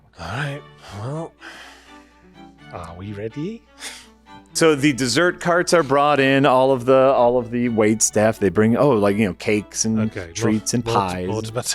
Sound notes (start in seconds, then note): none